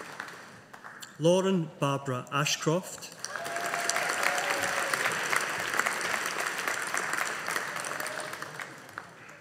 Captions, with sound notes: Lauren Barbara Ashcroft. (AUDIENCE APPLAUDING)